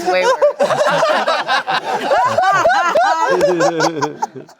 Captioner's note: everyone laughing